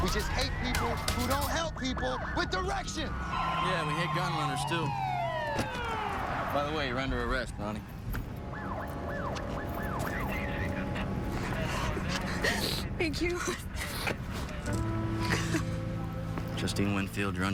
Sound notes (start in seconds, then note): 8.4 siren chirps, garbled radio transmission; 13.3 cries